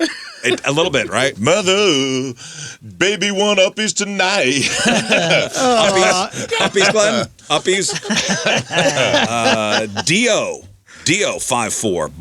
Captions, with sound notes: A little bit, right? Mother baby one uppies tonight (laughing) Uppies Glenn, uppies. (laughing) Dio, Dio five four.